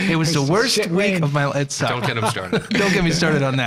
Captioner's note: all laughing